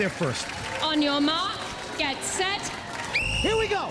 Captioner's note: whistle blows